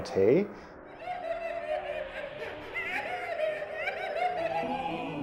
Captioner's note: people laughing and crying